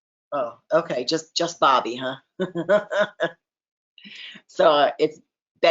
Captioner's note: chuckles